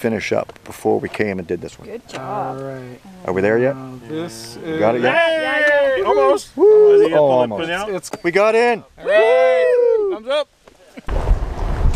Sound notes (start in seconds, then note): 5.1 cheers; 9.0 many call out